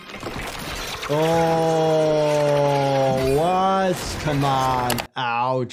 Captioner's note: rope falling